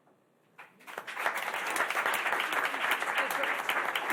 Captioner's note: applause